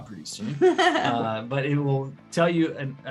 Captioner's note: laughing